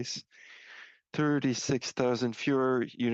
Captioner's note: speaking French